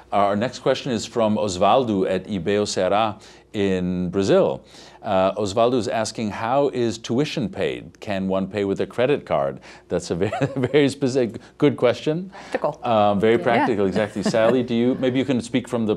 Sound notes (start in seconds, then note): 10.3 laughing